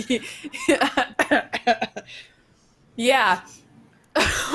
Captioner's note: coughs